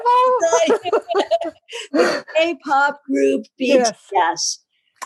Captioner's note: laugh